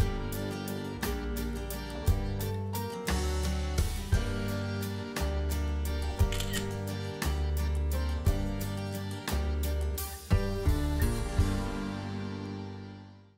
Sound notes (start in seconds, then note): 6.0 camera shutter clicking